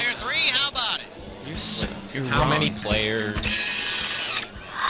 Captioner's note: imitating Raul